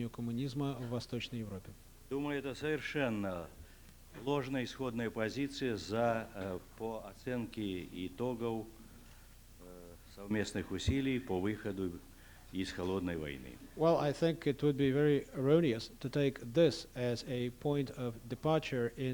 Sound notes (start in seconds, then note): 5.5 non-english speech